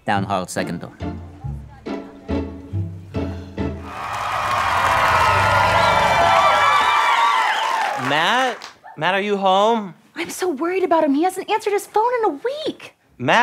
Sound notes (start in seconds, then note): 3.8 audience cheering